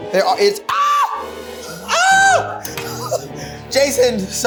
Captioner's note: screams